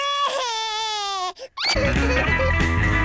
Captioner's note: cries